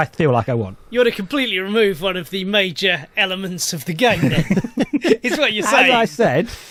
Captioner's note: laugh